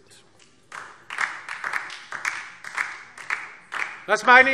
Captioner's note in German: Beifall DIE LINKE